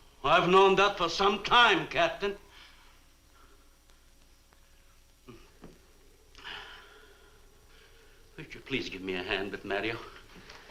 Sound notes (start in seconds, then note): 6.4 Marlowe sighs